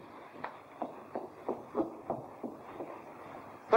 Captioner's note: scurrying footsteps